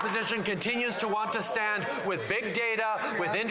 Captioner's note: some Applause